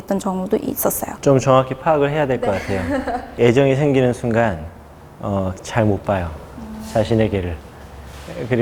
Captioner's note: laughing